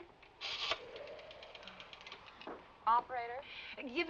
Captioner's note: phone clicking